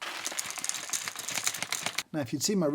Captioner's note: beans pouring